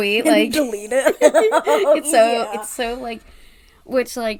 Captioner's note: laughs